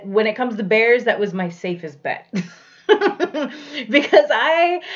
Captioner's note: laughs